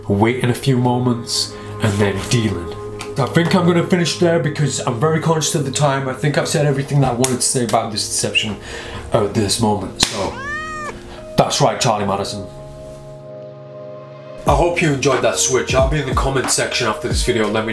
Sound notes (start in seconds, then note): 10.2 cat meowing